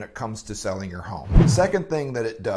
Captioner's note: whoosh